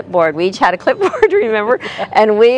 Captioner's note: laughter